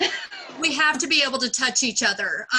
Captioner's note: laughs